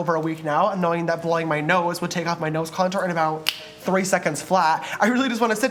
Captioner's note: snap